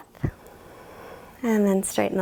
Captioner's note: exhales